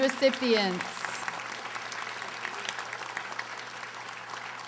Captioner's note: audience applauding